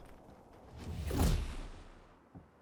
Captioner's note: swooshing